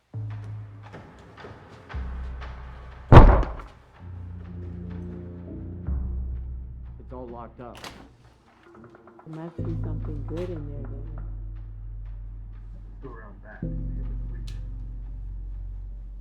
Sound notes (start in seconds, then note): 0.1 suspenseful music; 3.1 pounding on door